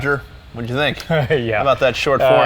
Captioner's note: chuckles